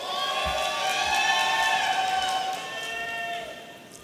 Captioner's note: audience cheering